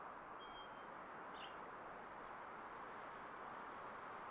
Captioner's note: birds chirping